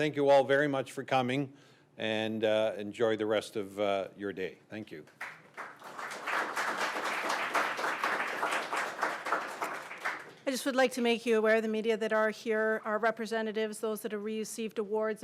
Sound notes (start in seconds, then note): 5.1 applause